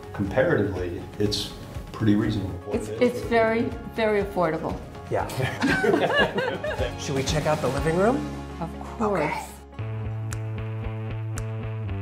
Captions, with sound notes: Comparatively, it's pretty reasonable. - It's very, very affordable. - Yeah. (all laughing) Should we check out the living room? - Of course. - Okay. (upbeat music)